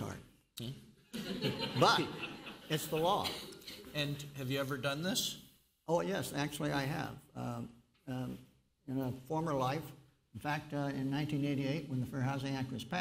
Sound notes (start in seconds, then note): 1.1 laughter